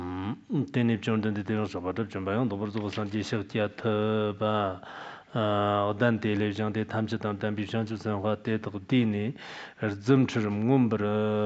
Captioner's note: giving oral transmission in Tibetan